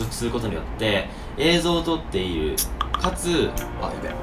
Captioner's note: beep beep beep